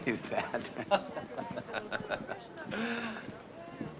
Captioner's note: chuckles